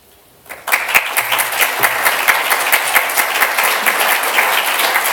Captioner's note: applause